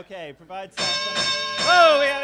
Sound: bell sounding

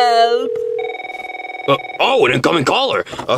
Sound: phone ringing

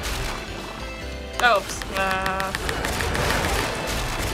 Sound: button mashing

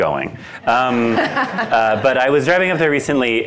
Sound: attendees laughing

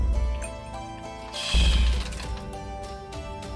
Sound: scoffs

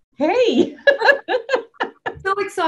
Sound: laughs

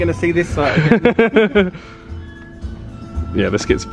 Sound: laughs

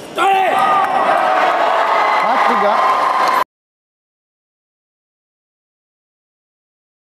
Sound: applause

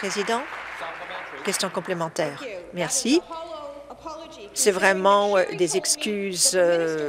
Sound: applause

